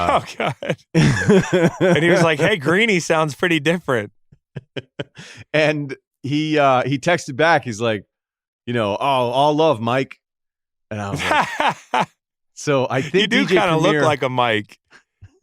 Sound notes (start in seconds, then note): 0.0 laughs; 4.4 laughs; 11.1 laughs; 15.2 laughs